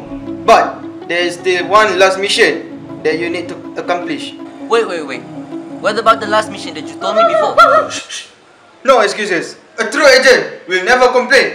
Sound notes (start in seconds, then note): 7.2 barking noice came out of nowhere